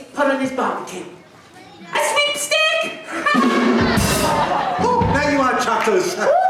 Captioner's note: audience groan